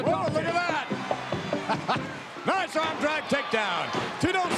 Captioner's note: chuckles